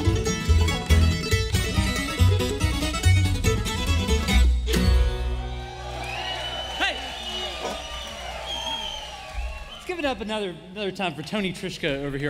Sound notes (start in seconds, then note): 5.1 crowd cheering